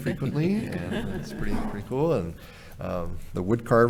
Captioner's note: audience laughing